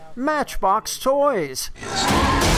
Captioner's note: car crushing